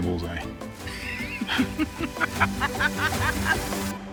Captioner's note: both laugh